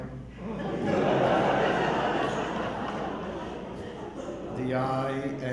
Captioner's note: audience laughing